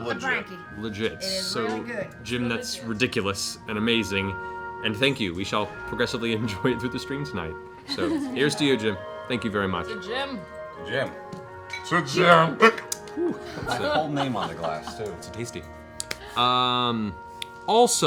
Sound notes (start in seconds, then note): 11.5 slurred